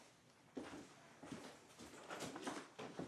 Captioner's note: footsteps thudding away